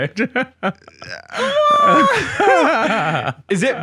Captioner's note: laughing